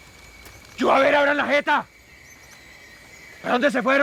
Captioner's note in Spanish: none